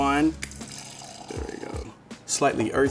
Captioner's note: wine pouring